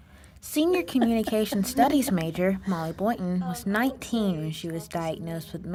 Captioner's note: NAT POP: laughing